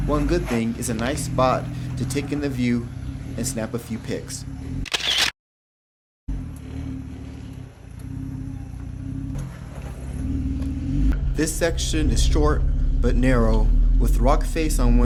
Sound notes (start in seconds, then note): 4.8 shutter clicks; 8.3 car motor hums